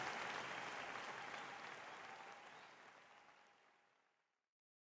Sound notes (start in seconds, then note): 0.0 clapping fades out